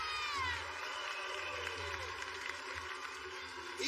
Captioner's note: cheers and applause